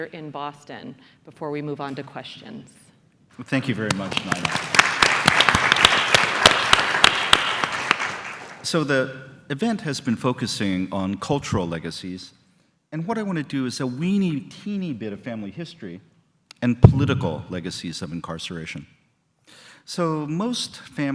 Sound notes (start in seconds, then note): 6.6 applause